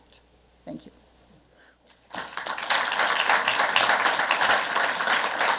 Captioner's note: applause